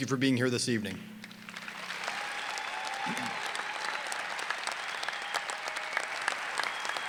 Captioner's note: applause and cheering